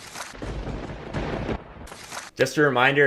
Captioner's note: lightning strikes